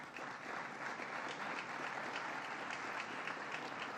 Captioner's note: applause